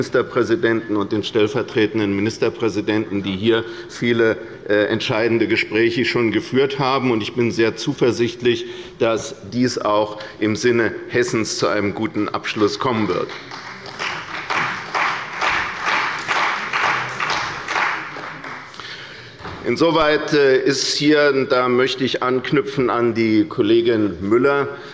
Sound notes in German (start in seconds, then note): 13.1 Beifall bei der CDU und dem BÜNDNIS 90/DIE GRÜNEN